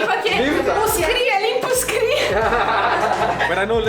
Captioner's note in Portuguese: risadas